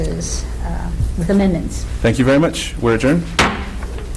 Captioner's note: loud thud